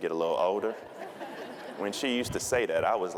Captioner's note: audience laughing